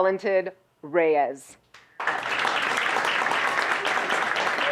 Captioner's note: audience applauds